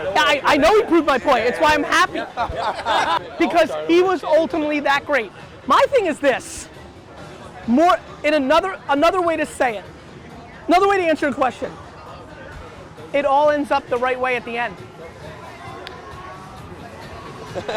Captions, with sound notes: - I know he proved my point. It's why I'm happy. (group laughter) Because he was ultimately that great. My thing is this, more, and another way to say it, another way to answer your question, it all ends up the right way at the end.